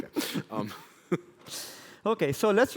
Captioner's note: laughter